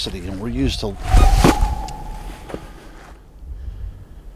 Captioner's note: creature howling